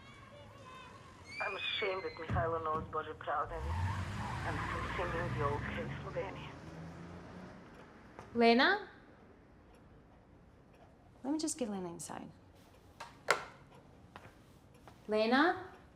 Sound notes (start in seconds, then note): 5.1 engine revving